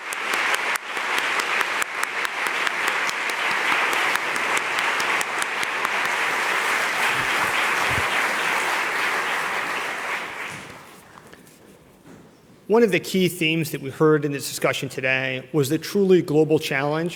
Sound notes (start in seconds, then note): 3.2 applause